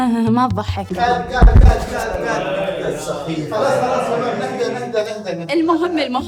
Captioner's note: commotion